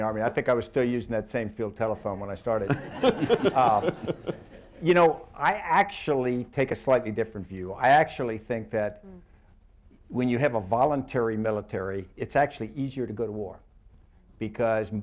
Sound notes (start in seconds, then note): 2.6 laughter